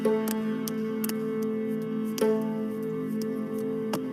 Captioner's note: handclaps